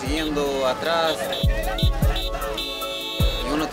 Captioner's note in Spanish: bocinas de carros